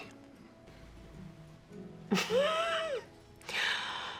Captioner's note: laughs